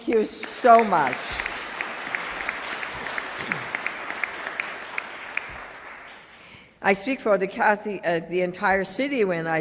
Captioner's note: applause